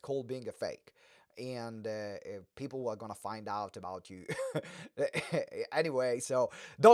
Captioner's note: laughs